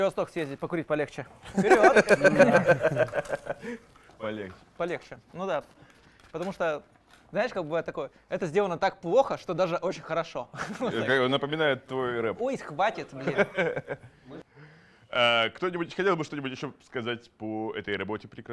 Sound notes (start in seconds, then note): 1.4 laugh; 13.0 laugh